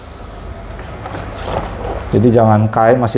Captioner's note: covering paper noise